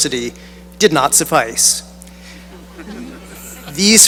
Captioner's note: laughter